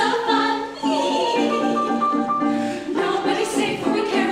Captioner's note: singers giggling